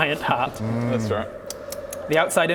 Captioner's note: nom nom nom